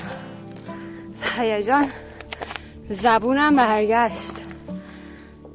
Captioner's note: gasping sound